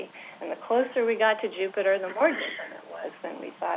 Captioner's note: interference